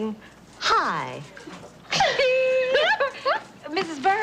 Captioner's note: laughing